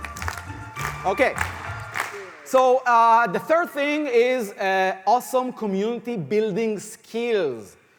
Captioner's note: rhythmic clapping